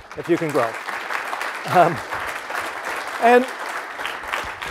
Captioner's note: applause